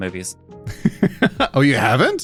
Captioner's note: laughing